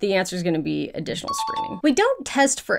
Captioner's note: question dings